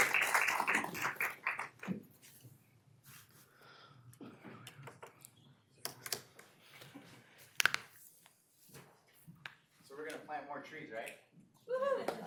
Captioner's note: applause